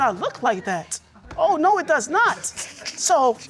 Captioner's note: laughing